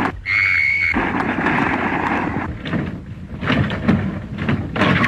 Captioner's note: anita screams